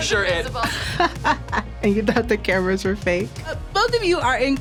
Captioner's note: laughs